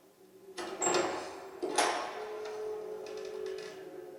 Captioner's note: door creaking